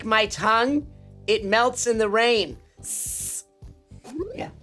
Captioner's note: imitates hissing